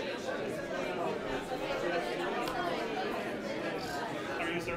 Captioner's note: overlapping chattering